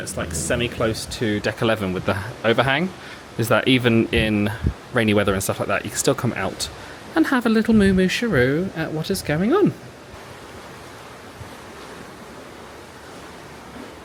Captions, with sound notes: that's like semi close to Deck 11 with the overhang is that, even in rainy weather and stuff like that, you can still come out and have a little Moo Moo Sharoo at what is going on. (rain splattering)